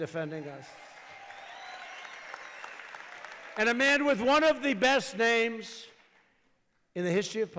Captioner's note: applause